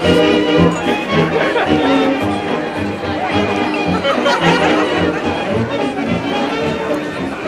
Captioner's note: indistinct chattering